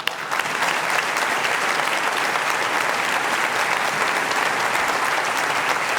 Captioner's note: applause